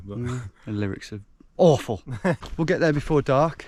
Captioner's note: chuckles